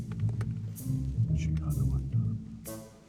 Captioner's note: whispers